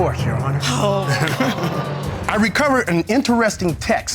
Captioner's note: chuckles